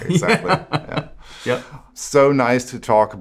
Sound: laughs

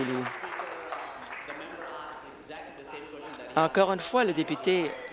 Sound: applause

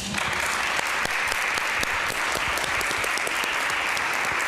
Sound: audience applauding

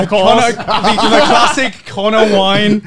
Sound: laughs

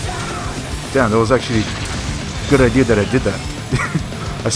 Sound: laughs

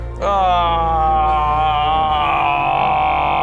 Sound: outrageously inconvenienced noises

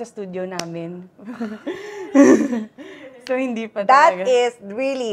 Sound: laughs

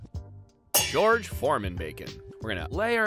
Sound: pans clanging

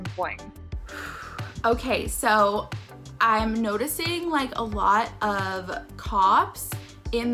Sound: exhales shakily

